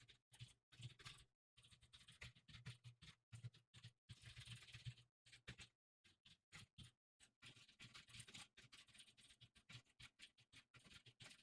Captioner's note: typing sounds